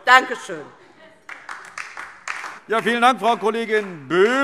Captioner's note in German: Beifall DIE LINKE